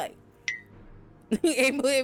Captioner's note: bell dings